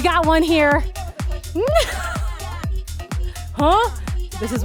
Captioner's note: laughter